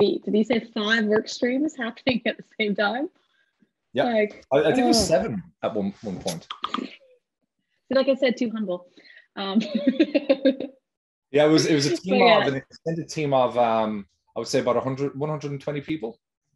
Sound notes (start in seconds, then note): 11.4 laughs